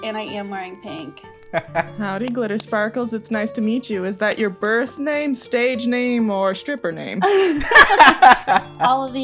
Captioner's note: laughter